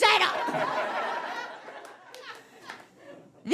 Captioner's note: audience laughs